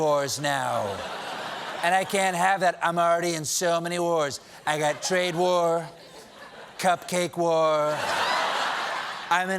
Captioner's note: laughter